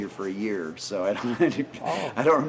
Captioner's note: laughing